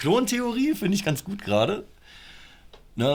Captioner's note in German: Lachen